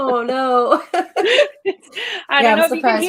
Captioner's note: laughs